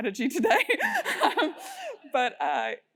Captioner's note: laugh